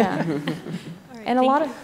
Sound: laughter

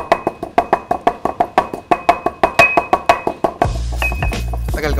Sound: pounding intensifies

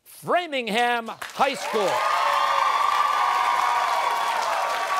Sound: cheers and applause

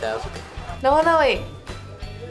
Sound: foreign Language

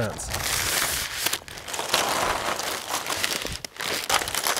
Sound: slats rustling

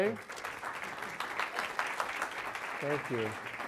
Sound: audience applause

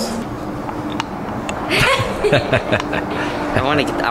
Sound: laughter

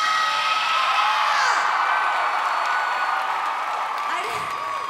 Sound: applause

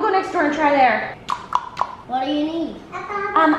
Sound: knock, knock, knock

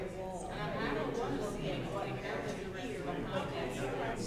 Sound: group talking

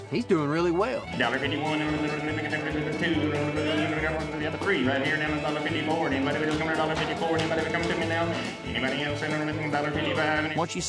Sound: continues auctioneering

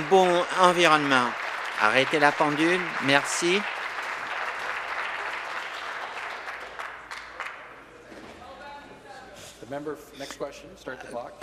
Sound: applause

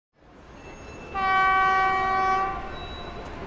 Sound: vehicle horn

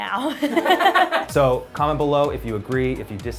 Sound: laughing

